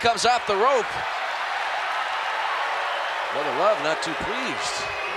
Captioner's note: applause